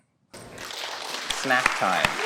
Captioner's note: audience claps loudly